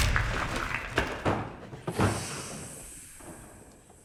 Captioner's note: snake hissing